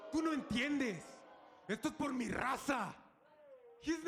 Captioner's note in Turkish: Humberto İspanyolca konuşuyor